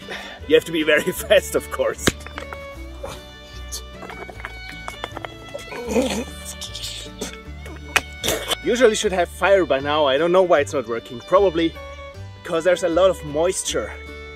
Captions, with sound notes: You have to be very fast, of course. *curses* *labored cursing* Usually we should have fire by now. I don’t know why it’s not working. Probably because there’s a lot of moisture